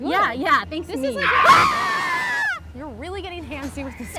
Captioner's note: screams